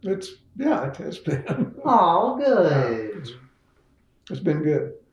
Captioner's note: laughs